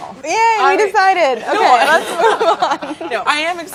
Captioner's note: group laughing